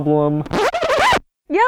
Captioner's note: record Scratch